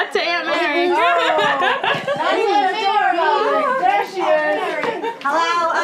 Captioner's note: everyone talking